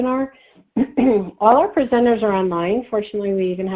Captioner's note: clears throat